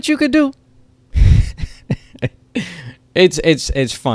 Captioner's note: chuckles